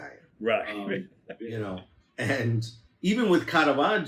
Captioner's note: laughs